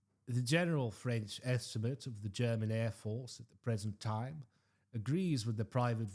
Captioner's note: French